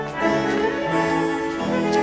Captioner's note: Aplausos